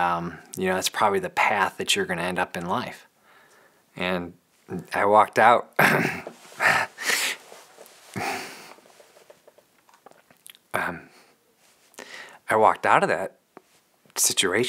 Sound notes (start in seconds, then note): 5.8 choking up